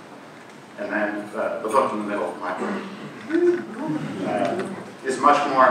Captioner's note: cheering